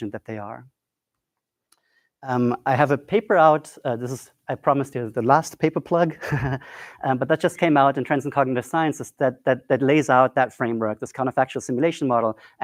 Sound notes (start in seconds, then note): 6.5 laughs